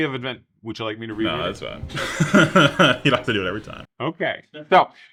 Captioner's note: laughs